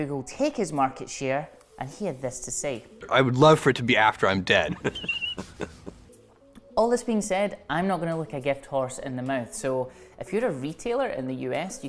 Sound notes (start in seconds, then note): 4.7 evil laughing